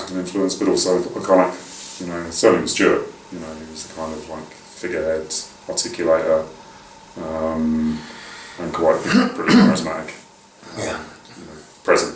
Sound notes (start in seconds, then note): 6.2 cough over speaking